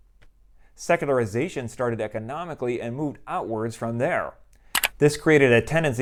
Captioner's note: mouse click